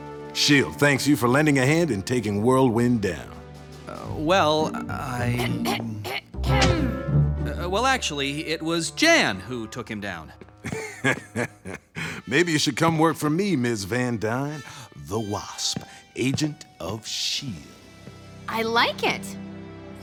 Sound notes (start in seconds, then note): 5.4 clears throat; 10.6 laughs